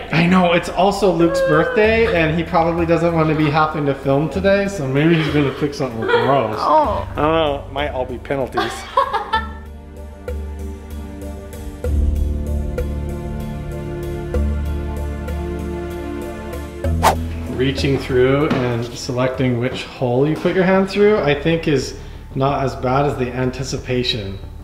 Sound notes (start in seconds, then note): 8.6 laughing; 9.6 dramatic music